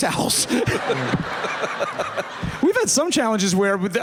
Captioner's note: laughter